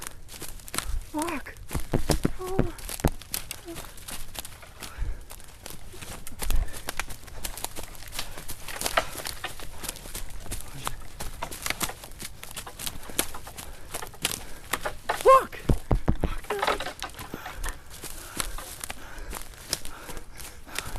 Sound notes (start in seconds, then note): 1.8 taps camera; 5.4 panting; 5.4 underbrush crunching; 15.6 taps camera